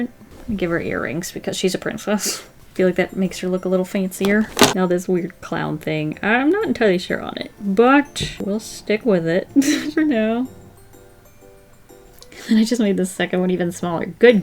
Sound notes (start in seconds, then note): 9.5 laughs